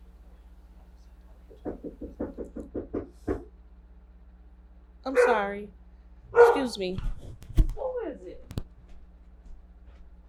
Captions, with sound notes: *knocking on the door* *dog barks* I'm sorry! *dog barks* Excuse me! What is it!